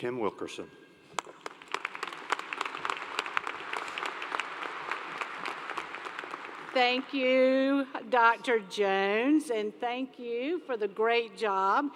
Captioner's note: applause